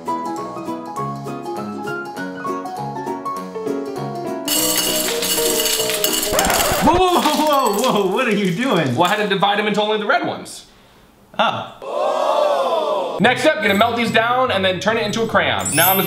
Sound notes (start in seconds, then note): 0.2 whimsical piano music; 5.8 Skittles clicking